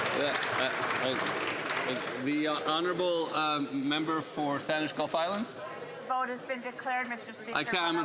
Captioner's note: some Applause